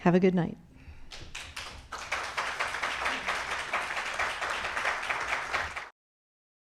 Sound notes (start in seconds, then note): 1.0 audience clapping